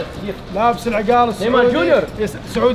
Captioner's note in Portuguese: Falas em árabe